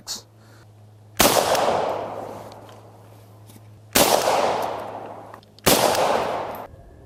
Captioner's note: gunshots